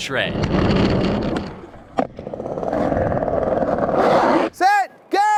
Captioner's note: skateboard rolling